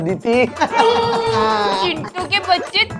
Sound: laughing

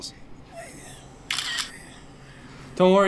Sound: camera clicks

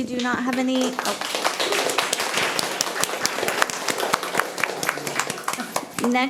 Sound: attendees applauding

